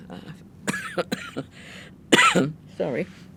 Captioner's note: coughing